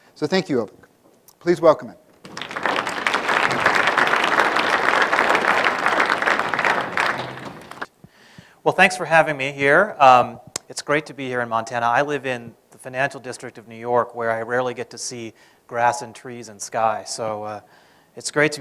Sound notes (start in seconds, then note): 2.2 applause